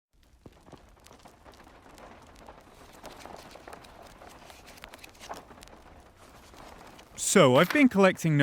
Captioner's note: the gentle creaks of an old, haunted library. Ooooo! Spoopy!